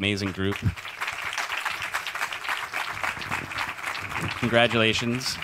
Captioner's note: audience applauds